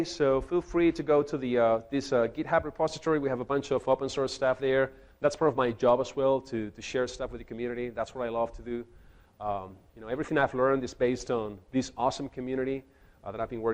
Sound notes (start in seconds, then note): none